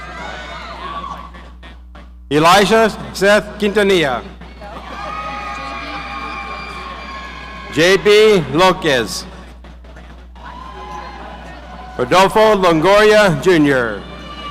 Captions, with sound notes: Elijah Seth Itania. (audience cheering) JP Locus. Adolfo Longoria Junior.